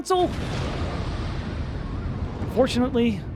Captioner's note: explosion